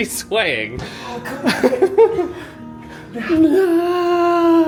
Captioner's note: laughs